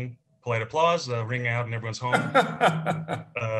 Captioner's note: laughs